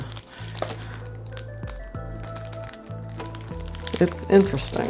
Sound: plastic crumpling

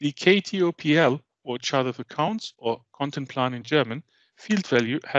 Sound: german

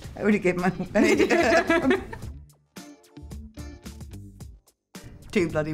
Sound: Olivia and Emma laugh

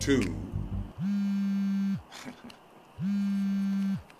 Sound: phone buzzes

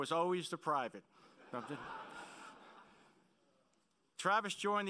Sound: laughing

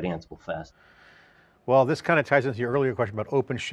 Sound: deep breath

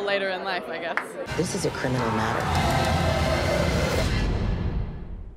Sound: hands clapping; electronic whirling

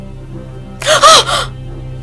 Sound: Hiki's scream

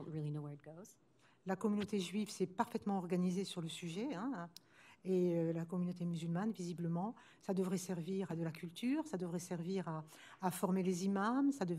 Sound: speaking french

